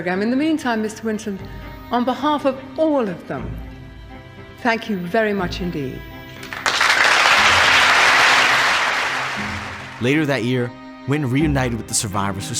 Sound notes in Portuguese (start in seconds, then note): 6.4 aplausos da plateia